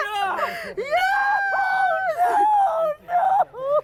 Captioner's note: crying